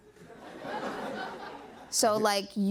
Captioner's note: laughter